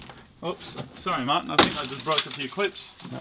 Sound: rattling

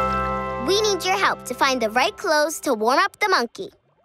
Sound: none

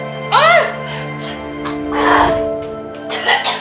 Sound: breathes heavily; coughs

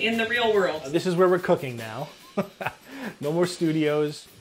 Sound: laughs

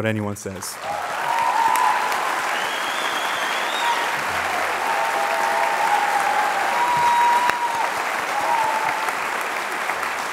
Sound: applause

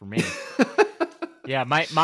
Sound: laughs

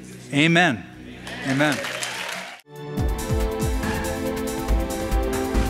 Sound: applause

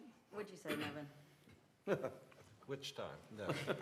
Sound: laughter

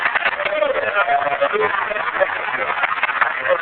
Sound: applause

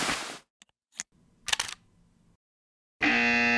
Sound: camera bag opening sounds; shutter sound; obnoxious buzzer

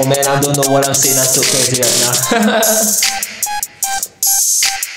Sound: chuckle

